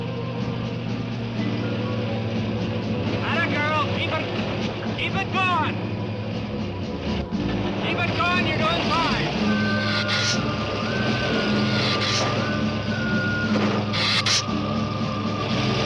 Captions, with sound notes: Attagirl. Keep it going. Keep it going, you're doing fine. (lizard hissing) (dramatic music)